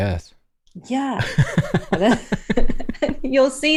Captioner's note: laughter